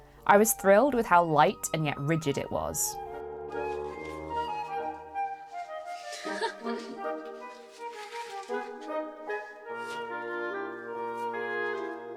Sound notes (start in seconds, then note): 4.2 laughs; 4.2 waltz plays